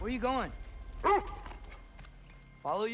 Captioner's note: bark